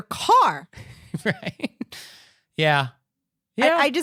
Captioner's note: giggling